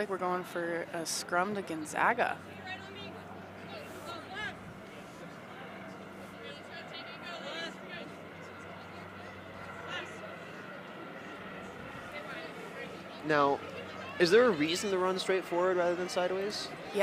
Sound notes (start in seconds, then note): 6.0 onfield chatter